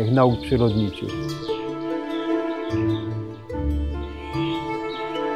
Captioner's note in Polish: oprócz muzyki tło wypełnia śpiew ptaków